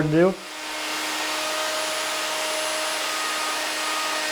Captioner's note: router whirring